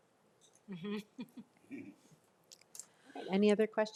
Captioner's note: chuckles